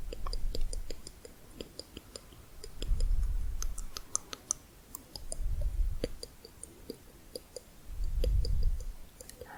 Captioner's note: varied tongue clicking